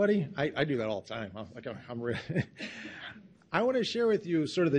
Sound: laughing

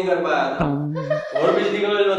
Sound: laughing

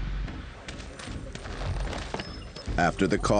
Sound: chest plunking

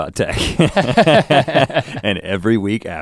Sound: both chuckle

